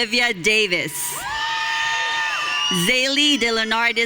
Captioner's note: audience cheering